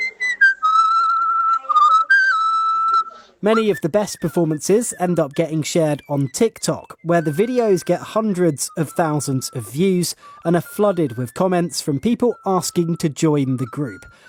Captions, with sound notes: [whistling] . Many of the best performances end up getting shared on TikTok, where the videos get hundreds of thousands of views and are flooded with comments from people asking to join the group.